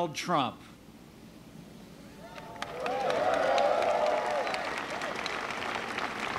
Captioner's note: applause